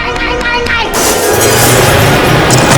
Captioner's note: window gets smashed in